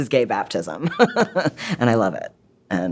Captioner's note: laughs